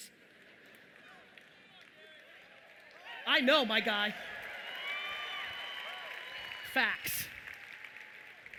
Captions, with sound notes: (audience applauding) I know, my guy. (audience cheering loudly) Facts.